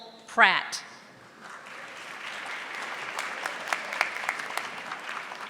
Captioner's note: audience applauding